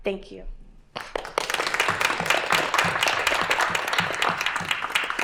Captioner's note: applause